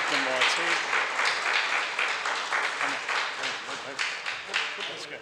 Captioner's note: audience applauds